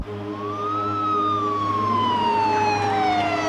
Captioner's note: siren wailing